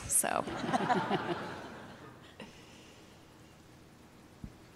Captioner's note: audience laughing